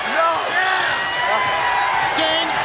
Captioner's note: crowd cheering